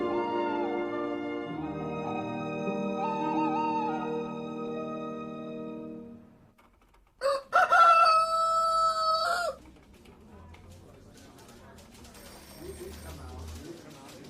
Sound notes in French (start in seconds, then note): 0.1 Hululements; 7.2 Chant du coq